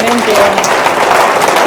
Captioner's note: applause